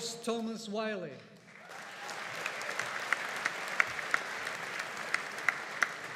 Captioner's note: audience applauding